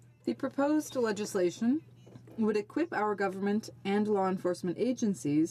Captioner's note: speaking in french